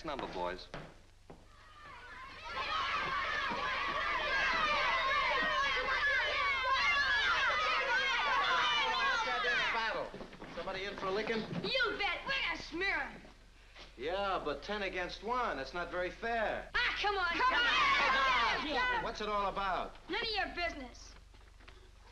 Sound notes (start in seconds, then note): 3.9 kids yelling angrily; 17.6 all yelling